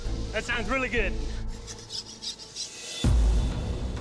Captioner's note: file scraping